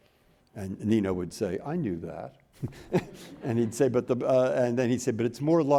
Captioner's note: chuckles